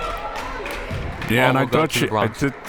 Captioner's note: crowd members clapping